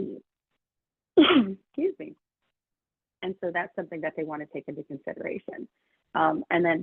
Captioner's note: sneezes